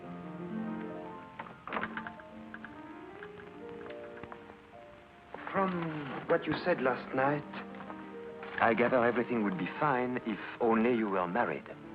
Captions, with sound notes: [piano playing] [door closes] From what you said last night,